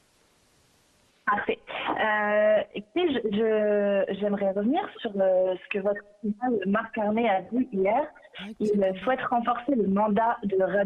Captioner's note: speaking French